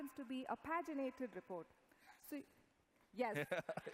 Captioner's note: laughter